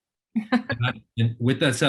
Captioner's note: laughs